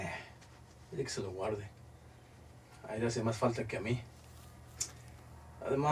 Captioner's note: man speaking in foreign language